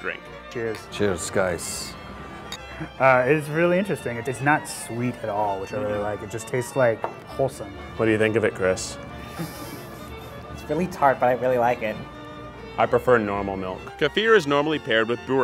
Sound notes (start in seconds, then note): 9.2 laughs